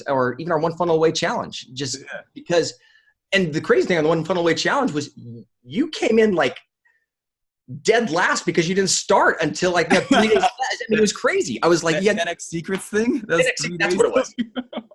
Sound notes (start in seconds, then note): 11.4 laughing